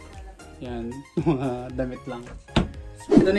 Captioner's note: laughs